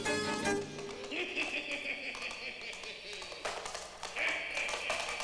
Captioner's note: evil laughter